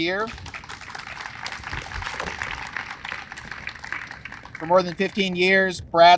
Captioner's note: audience applauds